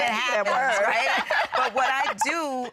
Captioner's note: laughter